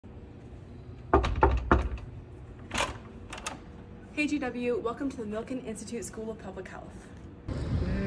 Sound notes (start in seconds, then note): 0.6 door opens; 1.1 GW knocking